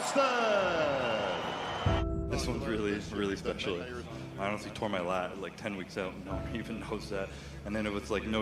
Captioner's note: cheers and Applause